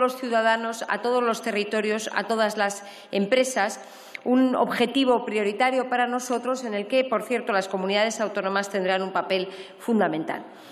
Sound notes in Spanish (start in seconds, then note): none